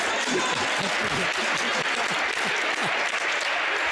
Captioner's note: audience applauds